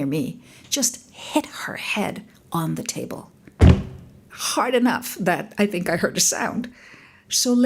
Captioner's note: thud